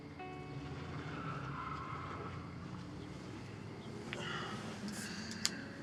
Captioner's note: car tires squealing; sighs